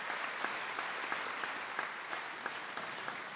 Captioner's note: applause